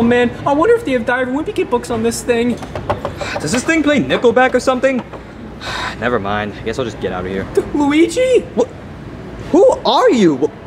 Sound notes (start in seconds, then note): 5.6 sighs